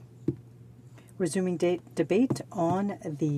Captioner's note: speaking French